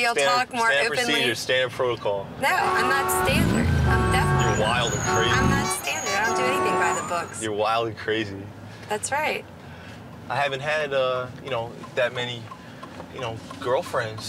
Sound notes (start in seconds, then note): 4.2 traffic noises